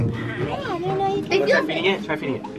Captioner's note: children chattering excitedly